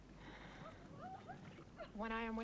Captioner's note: Hundra sighs